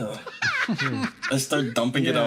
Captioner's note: laugh